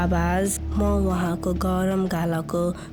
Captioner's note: a child speaking in local dialect